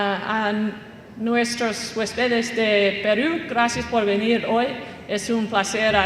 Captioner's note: speaking Spanish